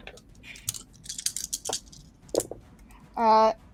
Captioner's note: dice rattling